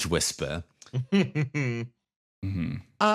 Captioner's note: chuckle